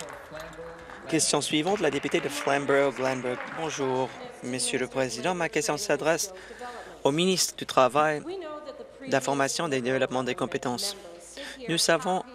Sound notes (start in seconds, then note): 0.0 applause